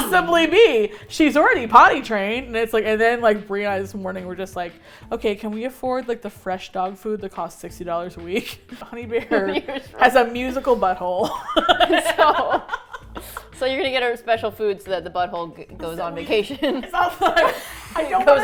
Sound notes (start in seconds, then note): 8.6 laughs; 11.2 laugh; 16.2 laugh